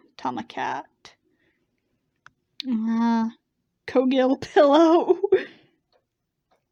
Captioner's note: laughs